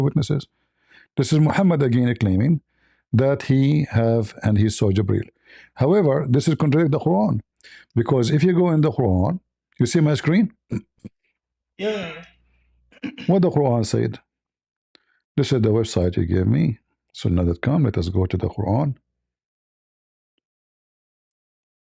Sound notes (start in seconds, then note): 10.7 clears throat